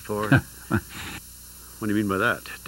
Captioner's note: co-host laughing